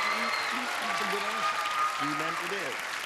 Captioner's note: cheering and clapping